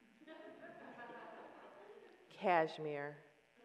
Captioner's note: audience laughs